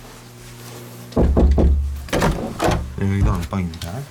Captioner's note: knocking